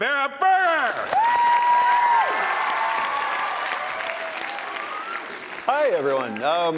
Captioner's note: audience applauding; audience cheering